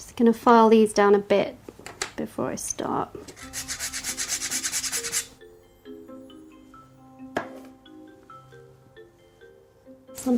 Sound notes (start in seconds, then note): 3.3 zester grating; 5.9 upbeat tune